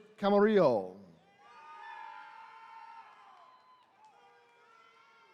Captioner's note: attendees cheering